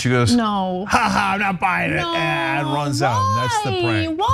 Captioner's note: laugh